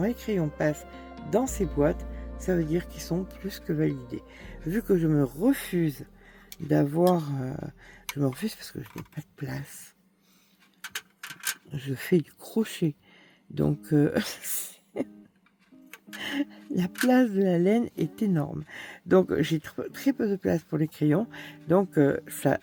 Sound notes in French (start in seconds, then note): 14.9 rires